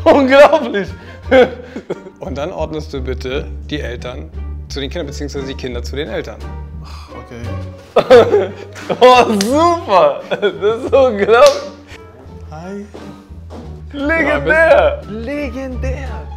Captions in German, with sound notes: Unglaublich! Und dann ordnest du bitte die Eltern zu den Kindern oder die Kinder zu den Eltern. (lachend:) Super, das ist unglaublich. Hi. Legendär! Legendär!